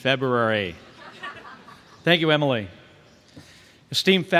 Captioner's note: laughter